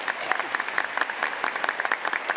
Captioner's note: applause